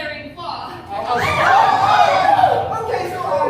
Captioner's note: screaming